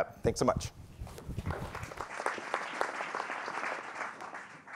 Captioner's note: applauding